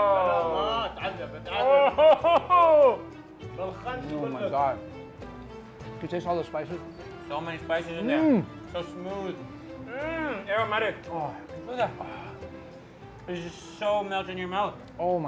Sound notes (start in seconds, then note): 0.2 man speaking in foreign language; 3.6 man speaking in foreign language